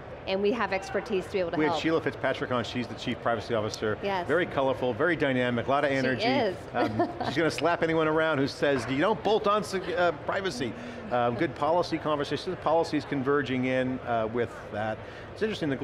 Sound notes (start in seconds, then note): 6.8 laughs